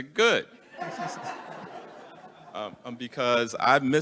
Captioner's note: attendees laughing